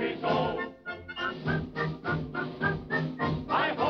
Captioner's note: whistling